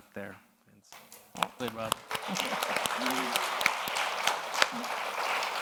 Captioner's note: audience applauds